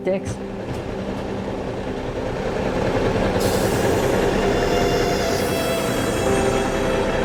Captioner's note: truck rumbling; orchestral music